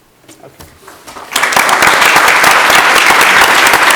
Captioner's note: applause